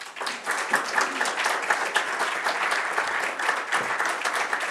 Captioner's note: applause